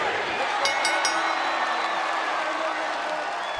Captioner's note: bell; cheers & applause